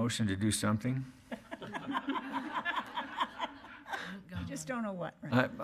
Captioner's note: laughing